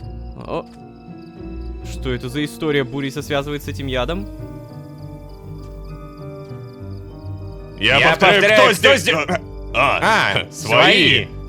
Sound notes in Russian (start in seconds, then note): 8.3 хором